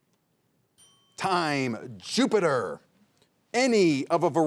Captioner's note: bell dinging